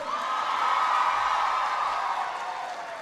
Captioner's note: applause